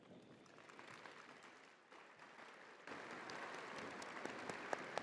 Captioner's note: crowd applauding